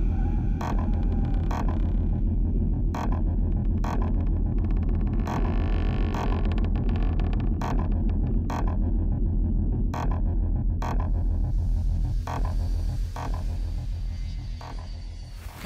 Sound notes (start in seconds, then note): 0.0 goulish breathing; 2.5 creaking footsteps